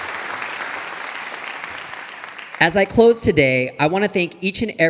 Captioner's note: audience applauding